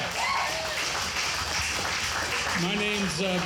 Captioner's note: audience applauding